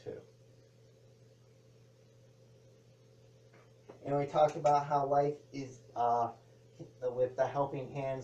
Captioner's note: clanking of hanger on clothing rack